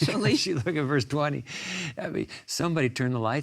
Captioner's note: laughs